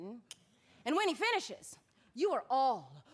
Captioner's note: clicks tongue